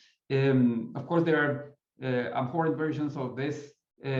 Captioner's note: voice muffling